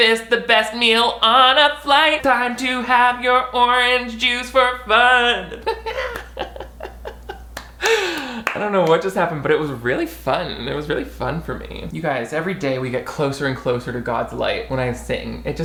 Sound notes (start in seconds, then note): 5.4 laughs; 7.5 claps